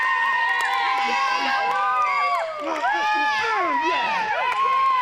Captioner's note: crowd cheering